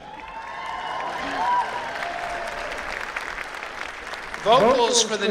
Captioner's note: applause